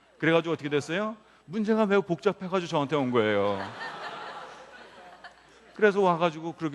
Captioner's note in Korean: 웃음